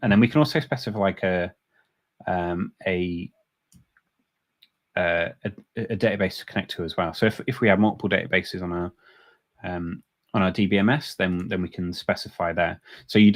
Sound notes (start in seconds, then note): none